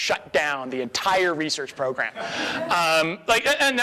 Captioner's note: audience laughs